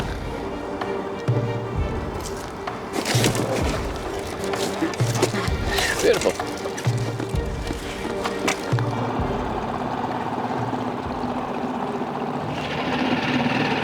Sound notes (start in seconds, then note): 2.7 water sloshing; 8.0 engine humming